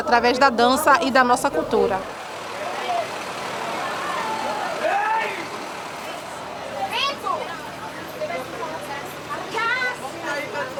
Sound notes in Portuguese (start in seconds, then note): 1.0 som do motor